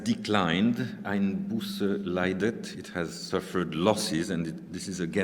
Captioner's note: speaking german